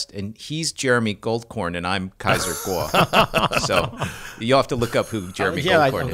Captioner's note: laughter